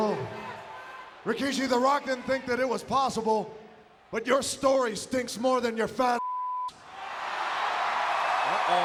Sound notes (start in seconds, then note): 6.2 beep; 6.8 audience cheering